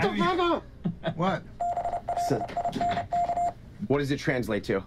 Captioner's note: morse code